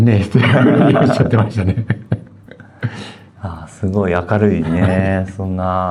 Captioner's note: laughs